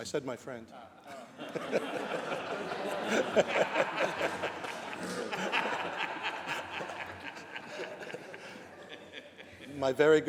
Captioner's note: laughter